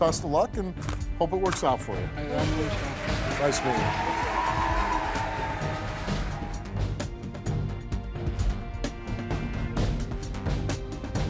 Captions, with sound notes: and hope it works out for you. (audience cheering) Nice meeting you. (dramatic music)